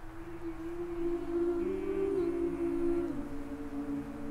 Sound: group humming

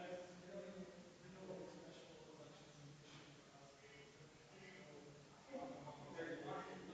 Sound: people chattering distantly continues

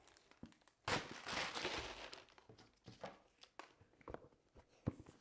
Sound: plastic crinkling

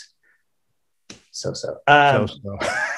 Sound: laughs

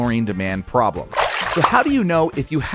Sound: water splash

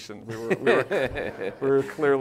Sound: laughs

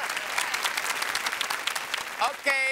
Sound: cheers and applause

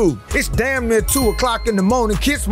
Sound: subscription bell chimes

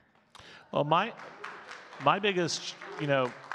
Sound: audience clapping

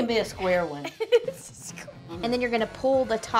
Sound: laughs

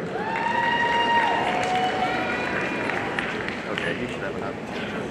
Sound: audience cheering and applauding

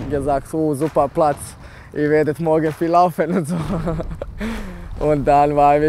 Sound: laughs

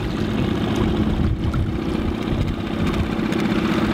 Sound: motor running

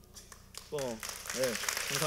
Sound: applaud

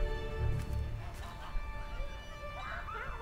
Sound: farmyard animals make noise in the distance

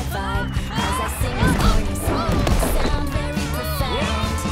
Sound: groaning

